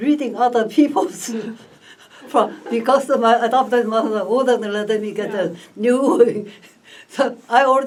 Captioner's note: laughs